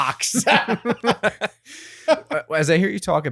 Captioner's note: both laughing